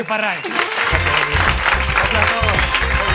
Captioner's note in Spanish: Aplausos